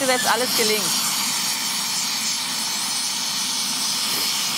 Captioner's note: hissing, hissing